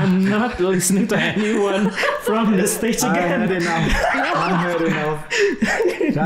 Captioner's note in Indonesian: tertawa